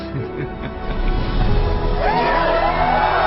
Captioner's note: all cheering